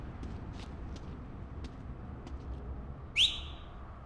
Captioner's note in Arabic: صفارات; طنين السيارة